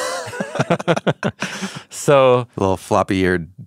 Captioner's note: both laughing